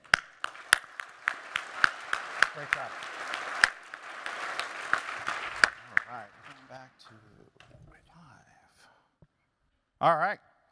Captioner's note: applause